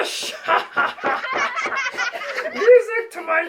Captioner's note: laughter